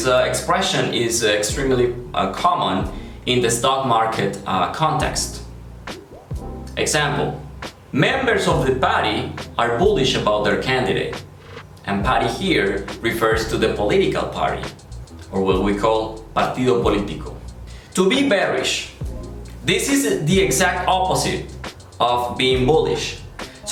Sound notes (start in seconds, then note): 17.4 Spanish